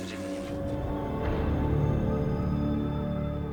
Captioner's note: heavy winds